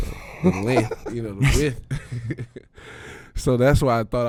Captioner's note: Quentin and Darius laughing; laughs